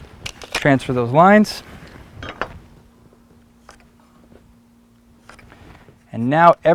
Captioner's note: pencil scratching lines on wood